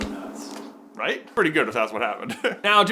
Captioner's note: laughs